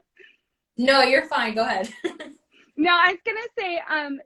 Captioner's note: laughs